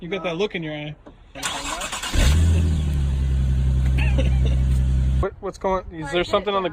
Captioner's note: Macho turns on car